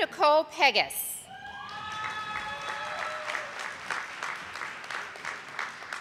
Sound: audience applauding

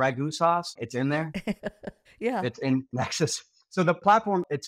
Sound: chuckles

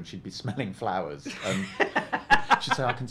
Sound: laughs

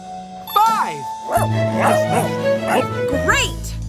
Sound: barking

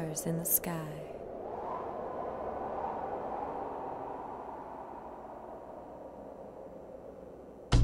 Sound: wind blowing; rhythmic drumming

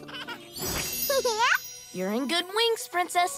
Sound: laughs

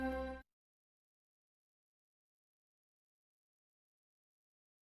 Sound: silence

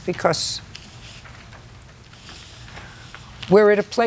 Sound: paper rustling

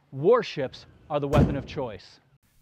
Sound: boom

